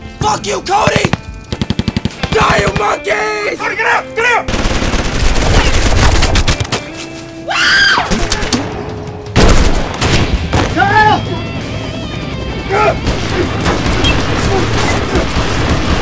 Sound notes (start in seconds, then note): 4.6 gun firing; 9.3 gun fires; 13.0 gun firing